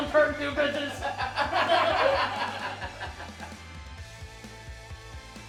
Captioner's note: people laughing; upbeat music